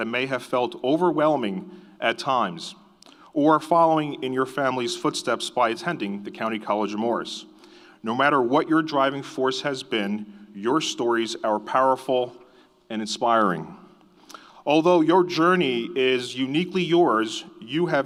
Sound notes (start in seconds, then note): none